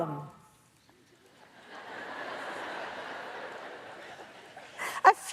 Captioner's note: audience laughs